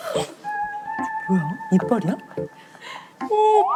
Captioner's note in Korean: 오열